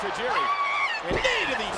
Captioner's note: Tajiri shouts